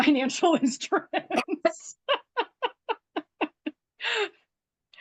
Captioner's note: laughs